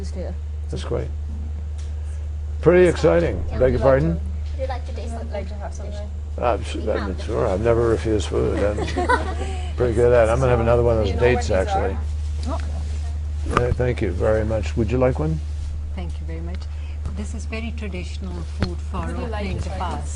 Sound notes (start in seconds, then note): 8.4 laughter